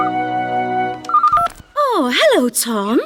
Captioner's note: phone Rings